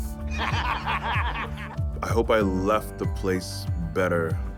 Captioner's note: laugh